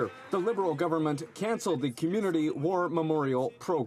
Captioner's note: some Applause